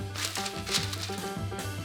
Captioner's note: paper crinkling